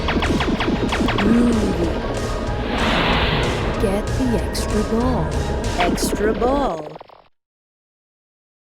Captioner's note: bomb hits OK